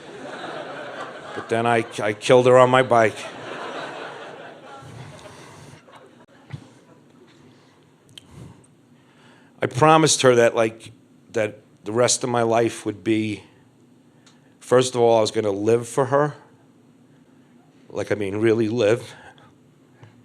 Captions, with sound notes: (crowd laughs) But then I killed her on my bike. (crowd laughing) I promised her that like that the rest of my life would be, first of all, I was going to live for her, Like, I mean really live